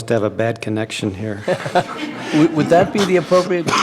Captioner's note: laughter